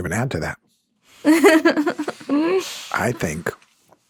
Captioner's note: chuckling